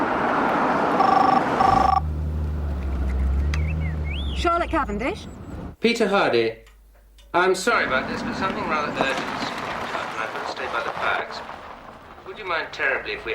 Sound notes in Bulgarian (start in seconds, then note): 0.9 CAR звънене на телефона